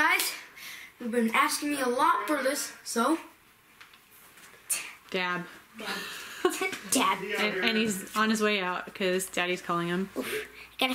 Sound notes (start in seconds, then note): 5.8 laughs